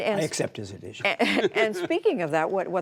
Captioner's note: laughter